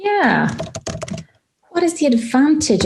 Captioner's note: keyboard clicking